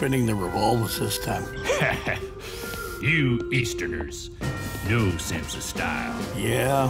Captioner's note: laughs